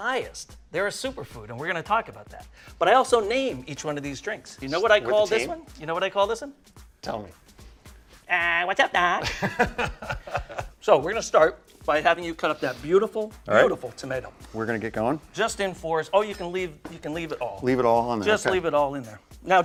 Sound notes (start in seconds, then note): 9.2 laughs